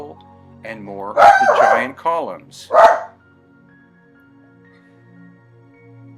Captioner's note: dog barks